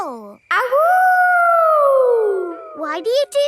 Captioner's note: howling